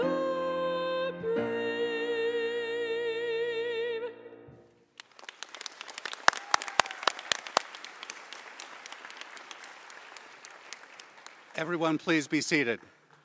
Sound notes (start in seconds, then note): 2.0 applause